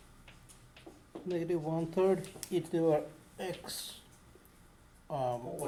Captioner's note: voiceover